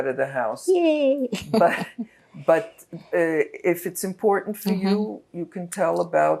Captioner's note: laughing